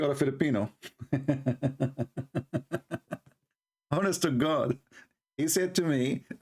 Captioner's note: Ketawa